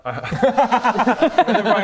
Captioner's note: groundbreaking laugh